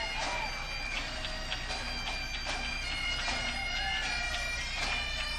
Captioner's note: upbeat music; audience cheering